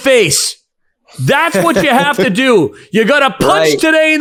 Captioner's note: laughing